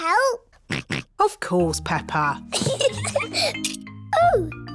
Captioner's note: snorts; giggles